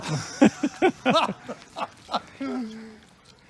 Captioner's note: laughs